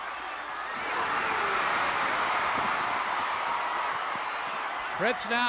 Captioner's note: audience cheering